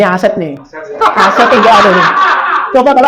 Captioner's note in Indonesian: Audiens tertawa